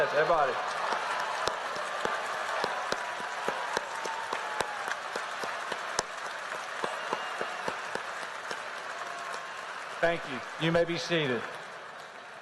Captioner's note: applause